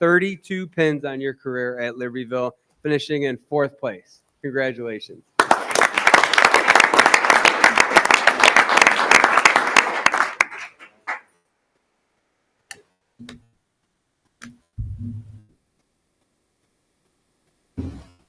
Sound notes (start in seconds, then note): 5.4 audience applauding